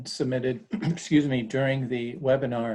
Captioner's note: clears throat